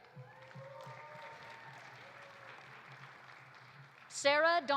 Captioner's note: audience cheering; audience applauding